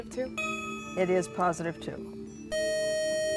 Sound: buzzer

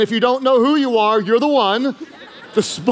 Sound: congregation laughing

